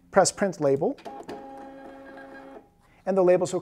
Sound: printer whirring

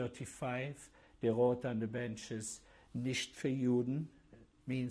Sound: german

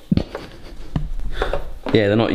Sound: both giggling

